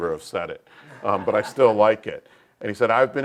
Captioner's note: laugh